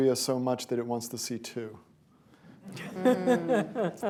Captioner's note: laughter